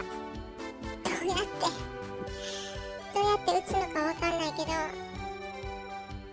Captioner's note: laughs